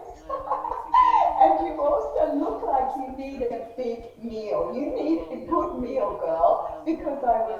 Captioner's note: laughs